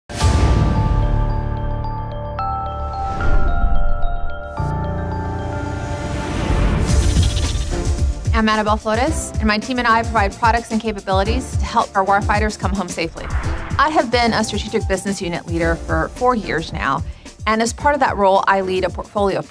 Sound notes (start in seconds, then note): 0.1 tense dramatic music; 2.9 logo whooshing